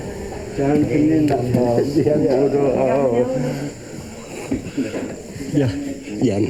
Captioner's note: speaking in foreign language